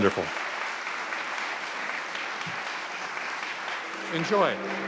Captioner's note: audience clapping